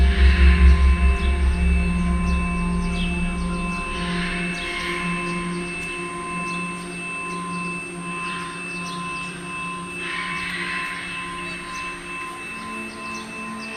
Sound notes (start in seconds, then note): 2.5 high pitched droning sound